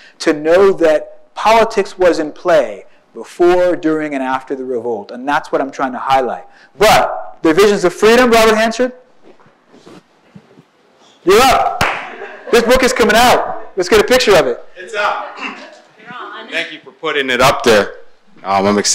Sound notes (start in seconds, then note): 11.7 hands clap; 12.0 audience laughs